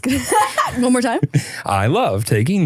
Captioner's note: laughs